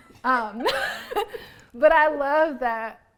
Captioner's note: laughs